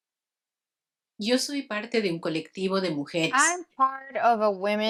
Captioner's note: speaks in foreign language